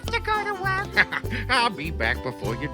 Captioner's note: laughs